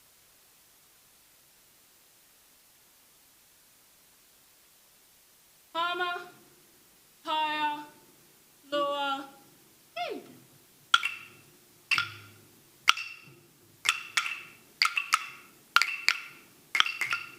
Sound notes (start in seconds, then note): 5.9 speaking foreign language; 10.8 sticks banging rhythmically